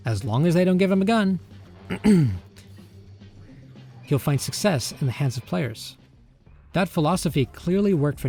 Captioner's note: clears throat